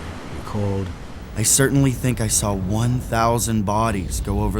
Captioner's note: voiceover